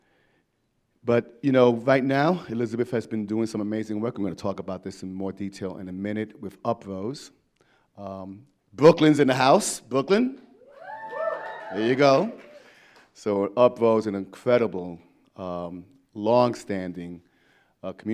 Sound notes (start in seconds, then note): 10.6 members of the audience cheering